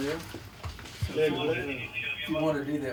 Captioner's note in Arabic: ثرثرة راديو الشرطة